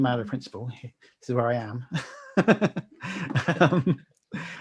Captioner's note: laughing